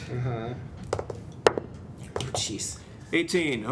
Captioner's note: dice roll